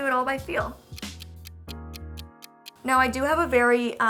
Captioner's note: clock ticking